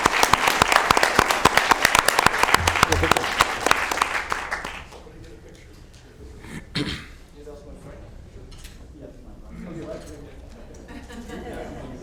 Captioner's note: applause